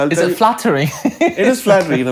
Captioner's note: laughter